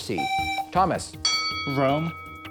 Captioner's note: buzzer; ding